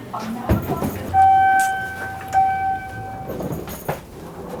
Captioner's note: elevator dings